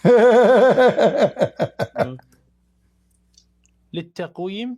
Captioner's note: Ketawa